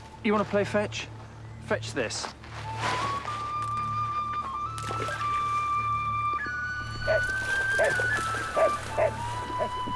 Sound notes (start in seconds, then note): 4.7 stick splashing; 7.3 dog barking; 9.7 gentle woodwind music